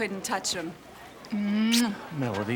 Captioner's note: lips smacking